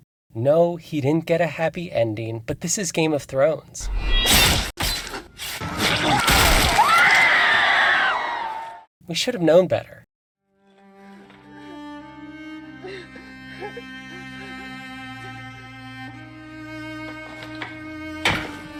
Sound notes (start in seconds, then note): 10.5 quiet sobbing